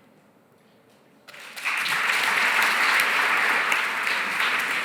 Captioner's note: applause